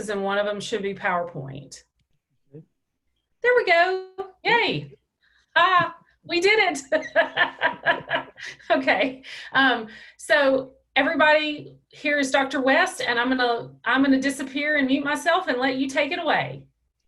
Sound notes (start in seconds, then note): 6.9 laughs